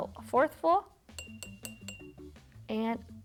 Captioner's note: jar tinking